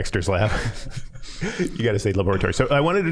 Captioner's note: all laughing